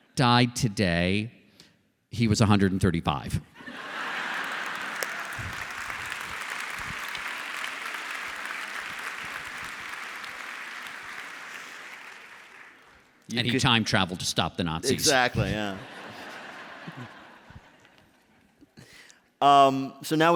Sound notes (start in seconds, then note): 3.6 laughter; 3.8 applause; 15.3 laughter